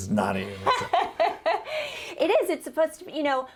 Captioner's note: laughs